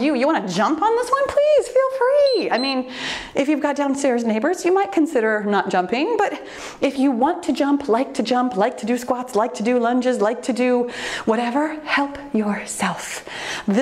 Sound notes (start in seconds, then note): 2.2 timer beeps